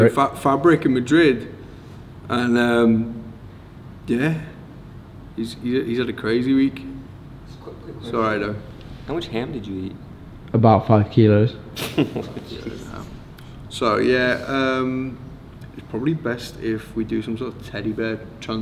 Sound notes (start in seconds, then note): 11.7 laughs